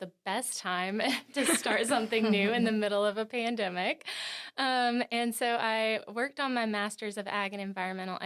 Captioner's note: laughing